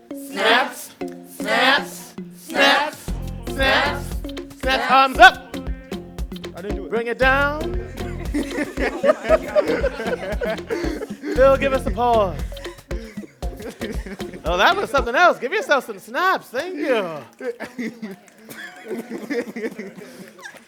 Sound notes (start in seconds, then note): 7.8 laughter; 12.8 music stops; 16.6 laughter, scattered cheers, snapping